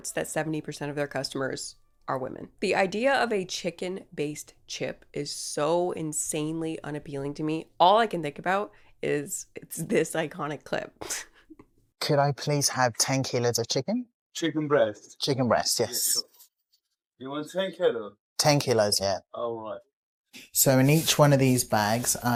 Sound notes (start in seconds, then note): 11.4 laughs